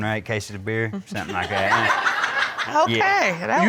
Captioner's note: crowd laughing